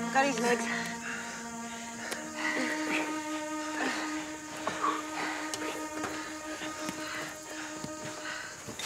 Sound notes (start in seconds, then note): 0.6 taking deep breaths